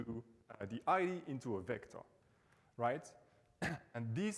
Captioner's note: coughs